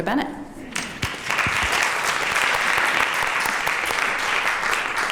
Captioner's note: applause